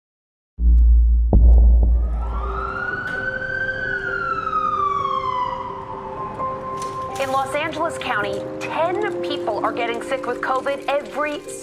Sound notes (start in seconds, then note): 1.9 ambulance sirens